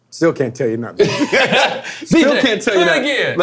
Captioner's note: men laughing